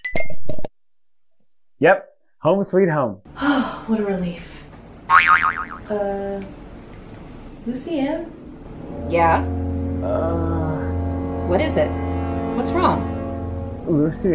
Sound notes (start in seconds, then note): 5.1 coil bouncing